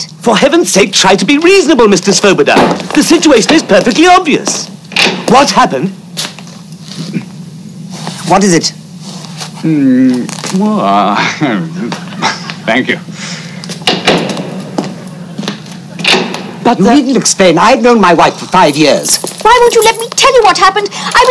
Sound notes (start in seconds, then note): 11.1 chuckles; 16.0 door bangs